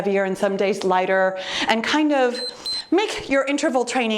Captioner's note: timer beeps